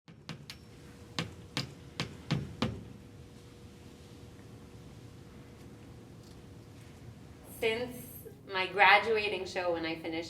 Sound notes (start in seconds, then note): 0.1 hammer Tapping